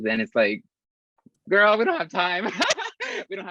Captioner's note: risas